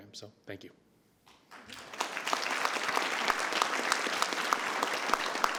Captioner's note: audience applauds